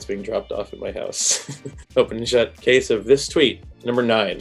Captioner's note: laughs